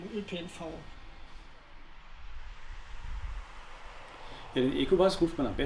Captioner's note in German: Rauschen